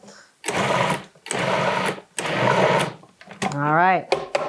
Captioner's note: blender whirring